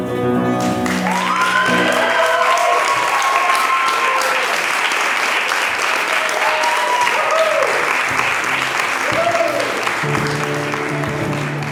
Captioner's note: applause